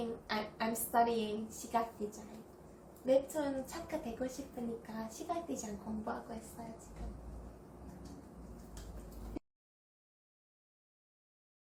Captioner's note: Korean